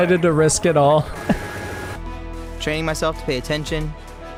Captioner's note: male Voice